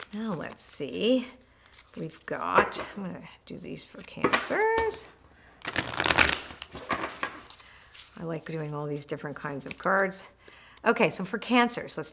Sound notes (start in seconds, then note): 5.6 cards rattling